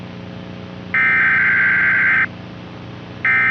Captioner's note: EAS TONES*** / Civil Danger Warning